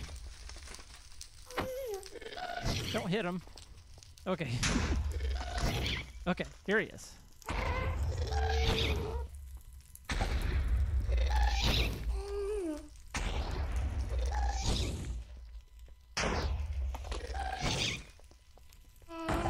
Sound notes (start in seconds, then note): 3.8 shrieking and explosions continue; 7.4 ghast screams